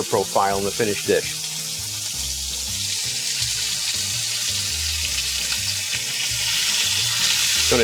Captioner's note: bright music; chicken sizzling